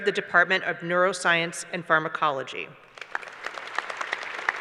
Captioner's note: applause